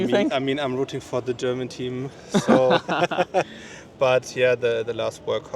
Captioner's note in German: gelächter